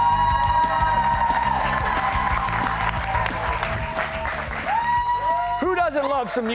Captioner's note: cheers and applause